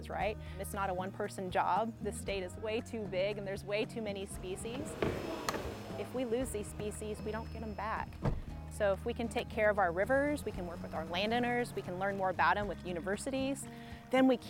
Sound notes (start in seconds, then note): 4.9 door locking; 8.0 car door closing